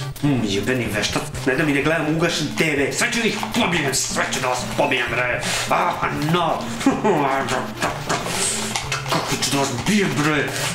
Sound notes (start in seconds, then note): 5.7 inarticulate sounds of fury